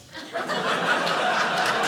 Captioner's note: audience laughing